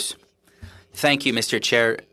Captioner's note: speaking French